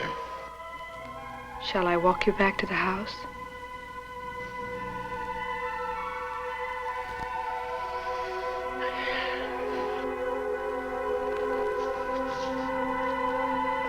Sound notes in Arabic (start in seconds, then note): 3.1 موسيقى هادئة; 6.7 تنهد الدجال; 6.7 موسيقى هادئة